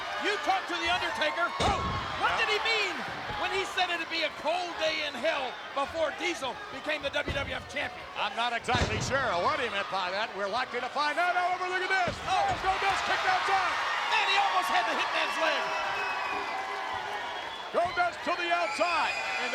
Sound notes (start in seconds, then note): 13.4 spectators cheering; 15.9 spectators cheering